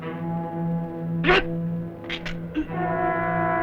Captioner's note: non-english speech